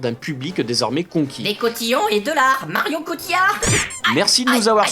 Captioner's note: sound of punch